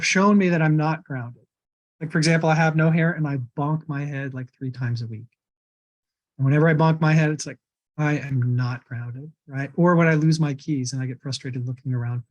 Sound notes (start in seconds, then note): none